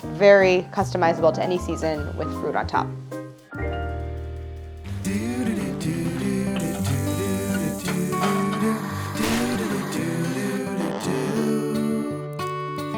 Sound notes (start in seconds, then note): 3.3 upbeat music; 6.3 mechanical whirling; 6.6 oil sizzling; 10.8 elastic stretching sounds; 12.7 upbeat music